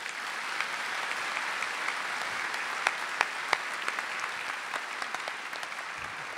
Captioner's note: applause